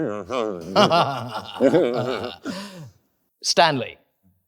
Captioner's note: both chuckle